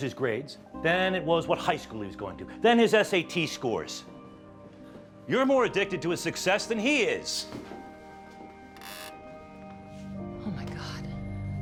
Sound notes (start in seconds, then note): 7.4 floorboards creaking